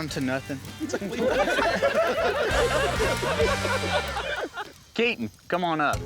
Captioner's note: all laughing